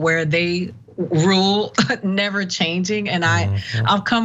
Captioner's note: laugh